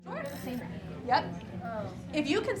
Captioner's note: students chattering